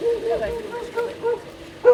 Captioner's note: dogs barking